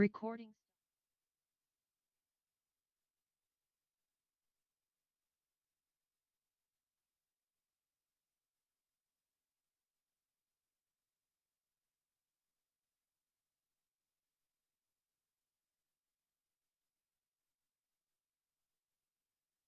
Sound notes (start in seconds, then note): 6.3 recording stopped